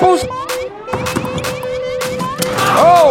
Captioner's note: ball bouncing; dunk sound